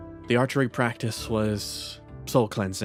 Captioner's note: none